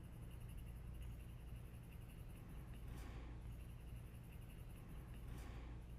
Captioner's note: pencil scratching